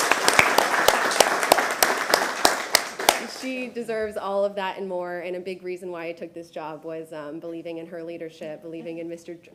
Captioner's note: applause